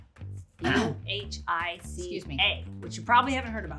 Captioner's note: clearing throat